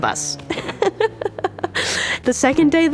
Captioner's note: laughing